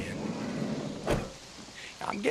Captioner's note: car door slams